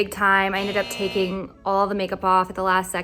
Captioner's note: buzzer